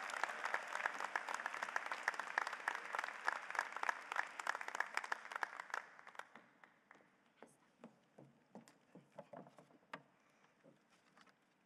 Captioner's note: applause